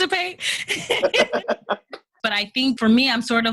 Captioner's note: laughter